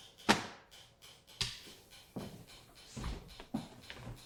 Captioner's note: papers thump; clicking noises in background